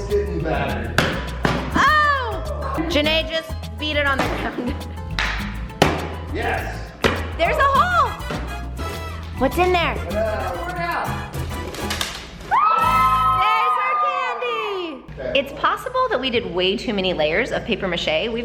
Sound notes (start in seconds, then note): 12.5 family cheers